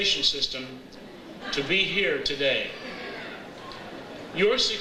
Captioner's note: audience laughs